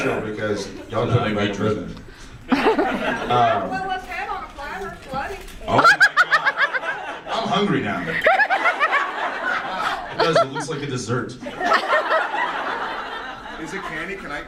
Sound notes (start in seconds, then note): 8.3 audience laughs; 11.4 audience laughs